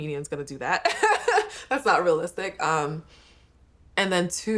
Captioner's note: laughs